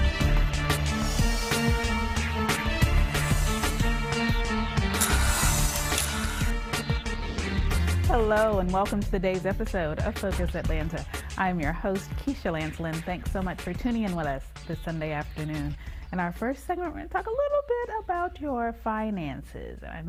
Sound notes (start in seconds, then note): 5.8 camera shutter clicks; 7.4 air whooshes